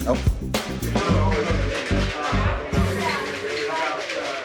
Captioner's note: chatter